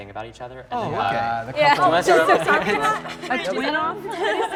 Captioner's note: crowd agrees